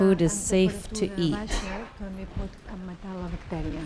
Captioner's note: speaking spanish